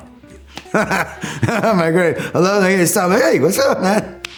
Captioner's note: laughs